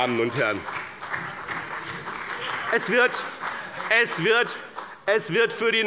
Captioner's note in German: Beifall bei dem BÜNDNIS 90/DIE GRÜNEN und der CDU